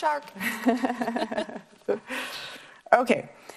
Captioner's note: both laugh